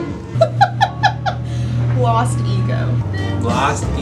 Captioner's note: laughing